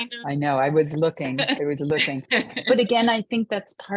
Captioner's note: laughing